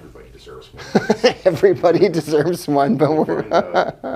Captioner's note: laughing